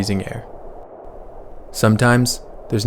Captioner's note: wind swoosh